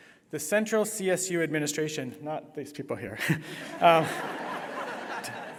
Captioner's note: laughter